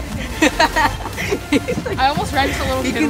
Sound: laughing

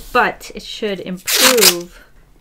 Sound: masking tape ripping

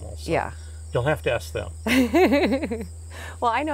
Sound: laughs

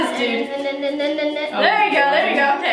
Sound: humming

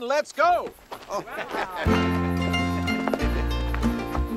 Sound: happy laughs

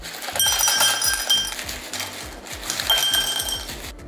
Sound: ice clinks

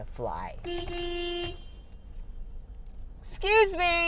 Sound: car horn honks

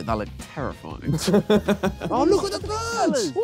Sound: laughing

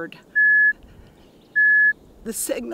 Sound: beep, beep, beep

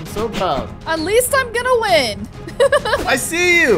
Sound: laughing

